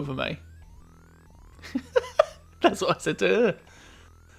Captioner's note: laughing